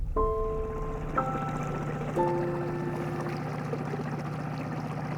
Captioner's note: boat motor hums